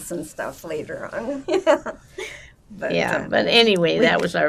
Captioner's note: laughing